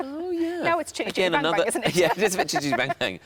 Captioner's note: laughs